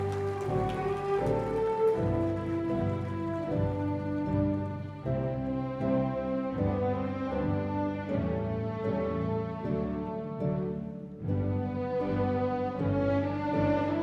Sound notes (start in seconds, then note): 2.4 cheers and applause